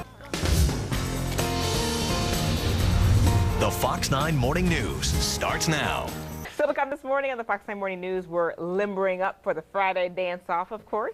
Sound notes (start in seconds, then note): 0.0 upbeat music; 3.5 voiceover